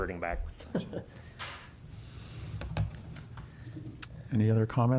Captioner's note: laughter